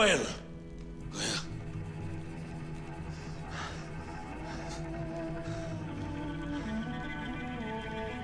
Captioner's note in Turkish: Zorlu nefes sesleri